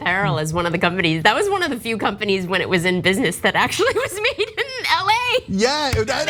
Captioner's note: laugh